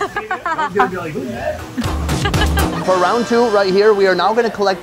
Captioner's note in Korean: 주인공의 아내가 웃는다